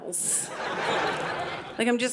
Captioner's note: audience laughing